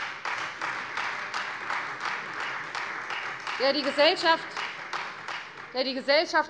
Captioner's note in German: Beifall Freie Demokraten